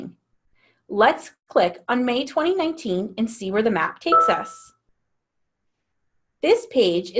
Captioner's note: ding